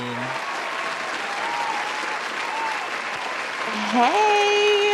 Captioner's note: thunderous applause